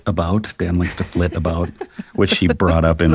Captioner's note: laughs